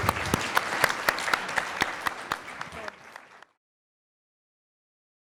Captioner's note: audience applauds